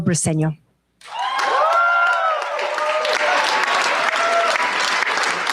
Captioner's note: cheers, applause